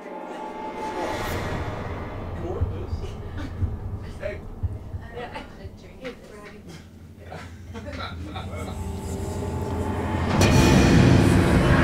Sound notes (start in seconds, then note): 0.1 dramatic music; 1.4 heart beating; 8.9 dramatic music